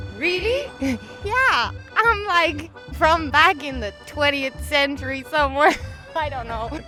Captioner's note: laughs